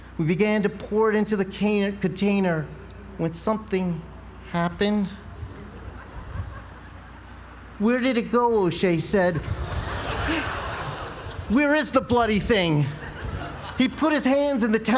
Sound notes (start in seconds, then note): 9.4 laugh